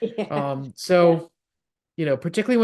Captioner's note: laugh